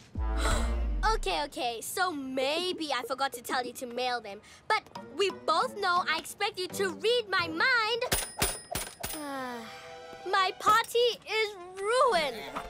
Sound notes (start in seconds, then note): 0.3 gasps; 9.1 sighs